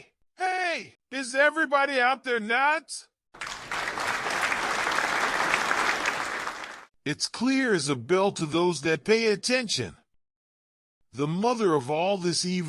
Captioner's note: students applauding